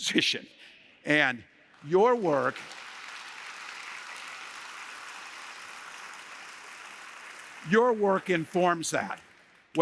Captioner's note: applause